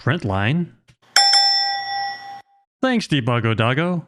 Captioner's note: bell ringing sound effect